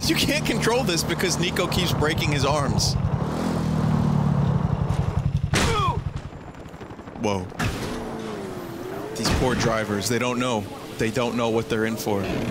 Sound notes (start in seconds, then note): 5.4 Niko grunts